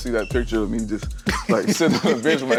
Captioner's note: laughing